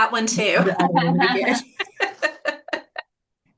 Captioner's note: chuckles